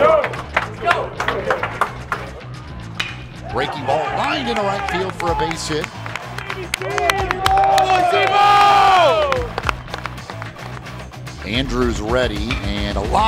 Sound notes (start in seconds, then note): 0.1 clapping; 2.9 ball hitting bat; 6.3 clapping; 7.5 cheering